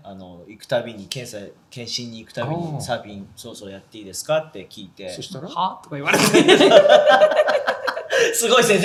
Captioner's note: laughs